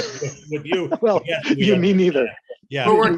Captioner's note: laughing